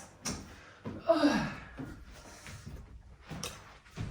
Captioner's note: woman sighs